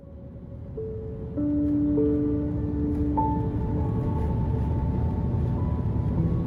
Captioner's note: gentle music continues; plane engine humming